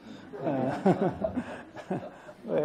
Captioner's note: audience laughs